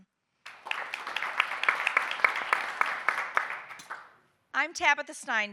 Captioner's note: audience applauding